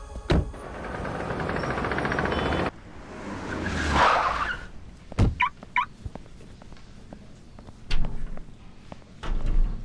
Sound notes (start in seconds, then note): 3.9 brakes squeal; 5.7 car alarm chirps